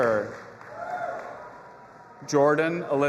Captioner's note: audience applauding and cheering